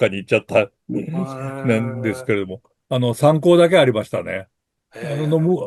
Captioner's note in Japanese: 咳払い